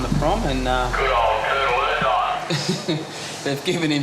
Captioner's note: laughs